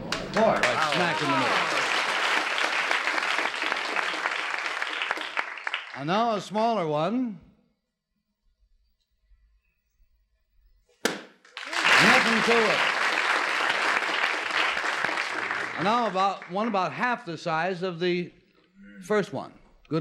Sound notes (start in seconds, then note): 5.3 applause